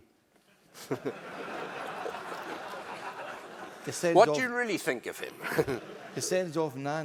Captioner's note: laugh